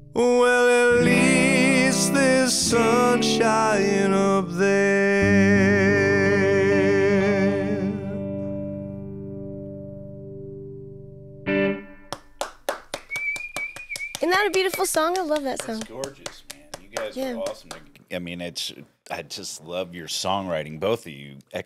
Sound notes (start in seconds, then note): 12.0 claps